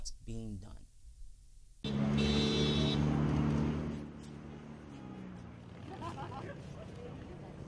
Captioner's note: cars blowing their Horns